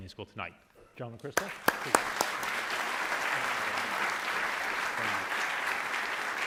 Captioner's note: audience applauding